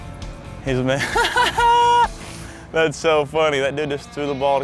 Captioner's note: laughing